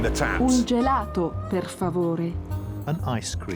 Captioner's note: woman speaking italian